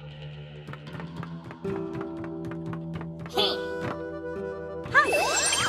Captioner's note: Princess Peach's footsteps running